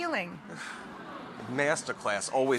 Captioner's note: laughing